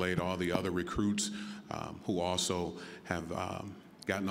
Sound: none

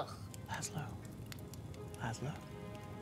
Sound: whispering

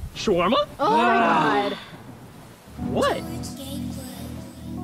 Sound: sighs

